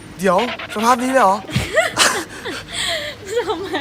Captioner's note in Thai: เสียงหัวเราะ